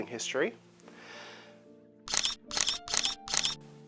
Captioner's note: shutter clicks